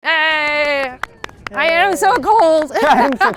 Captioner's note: laughs